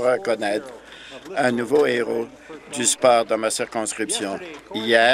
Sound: some Applause

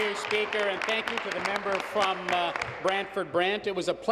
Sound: applause

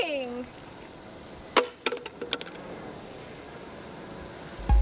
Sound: plastic cup hits the pavement

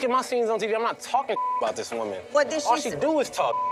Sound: beep; beep

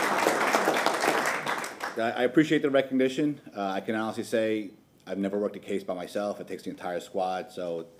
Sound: applause

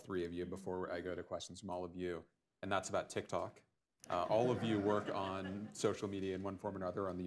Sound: laughter

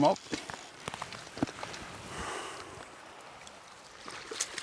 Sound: water splashing

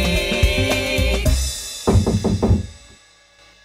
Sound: knocking

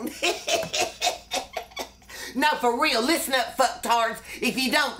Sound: laughs

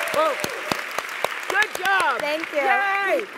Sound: applause

